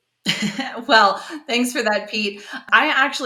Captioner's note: chuckles